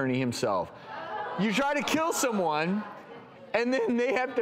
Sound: audience chatters

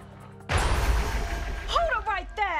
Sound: bang!

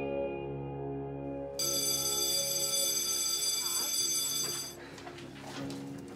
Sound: school bell

